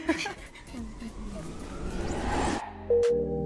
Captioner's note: laughs; whooshing sound; gentle upbeat music